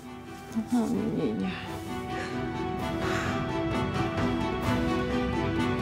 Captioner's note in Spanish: sollozos